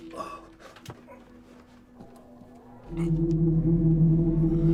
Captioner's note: Malcolm grunting